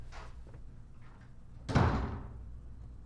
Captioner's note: door closes